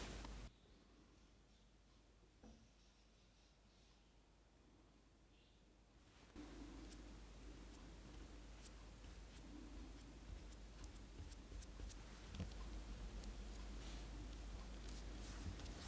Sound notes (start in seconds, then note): 6.9 brush scuffing